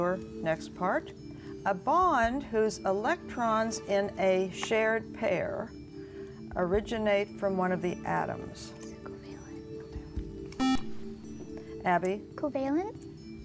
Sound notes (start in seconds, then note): 7.4 whispering; 10.6 buzzer